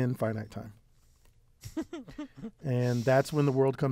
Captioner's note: laugh